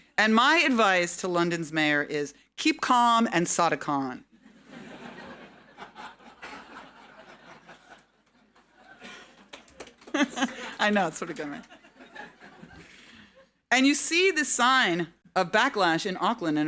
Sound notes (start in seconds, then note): 4.4 audience laughing; 4.7 laughing